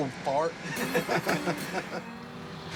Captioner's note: laughter